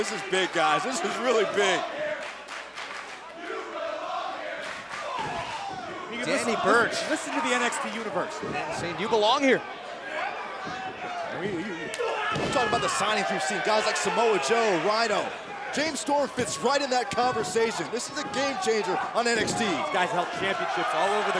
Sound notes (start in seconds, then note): 4.7 fans chanting